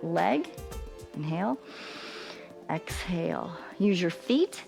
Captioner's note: inhales